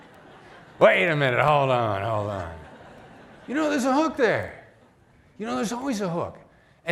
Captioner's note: laughter